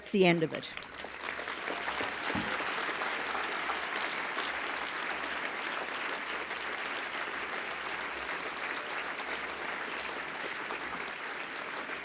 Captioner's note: applause